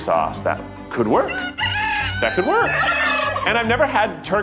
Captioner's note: turkeys crowing